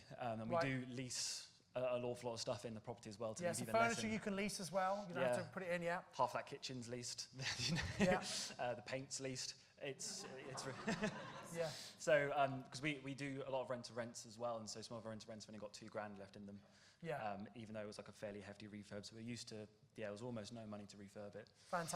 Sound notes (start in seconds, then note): 7.4 light laughter; 10.0 laughter